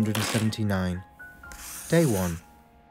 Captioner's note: paper tearing; pencil scratches